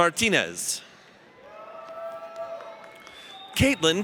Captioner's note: audience cheers